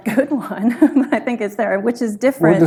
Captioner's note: laughs